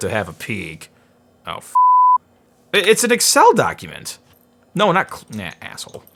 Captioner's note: beep